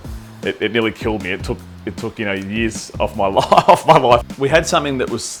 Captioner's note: laughs